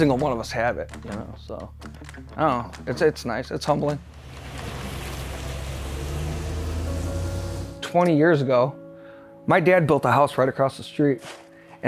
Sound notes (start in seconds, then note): 4.0 car engine roaring